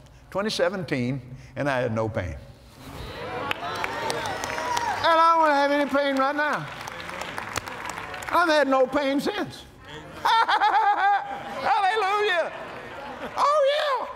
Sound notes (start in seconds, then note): 3.2 "Amens" & Applause; 9.8 laughs